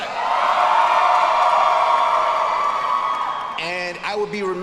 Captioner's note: students cheering